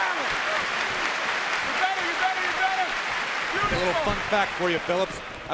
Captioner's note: clapping